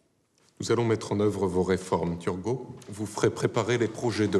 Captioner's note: men speaking in French